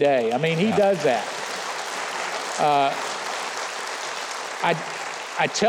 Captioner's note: audience applauding